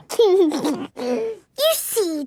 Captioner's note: giggles